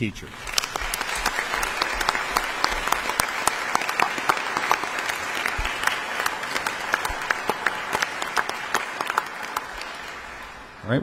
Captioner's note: audience applause